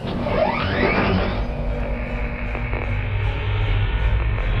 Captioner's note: machinery whirs